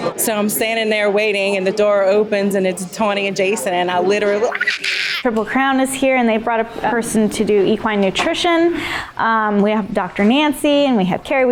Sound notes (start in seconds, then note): 4.5 scream